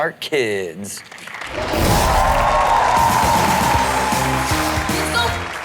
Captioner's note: audience cheers